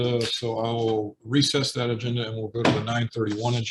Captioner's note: gavel pounding